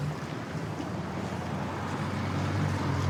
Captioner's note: vehicles driving